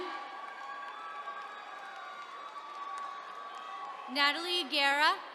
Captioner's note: attendees cheering